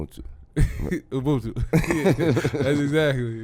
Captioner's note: laughs